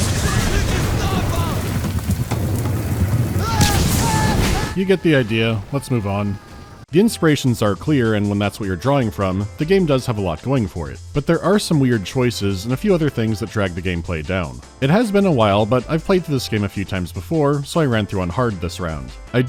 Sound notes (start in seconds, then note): 0.0 hectic action music; 3.3 screaming; 4.7 hectic action music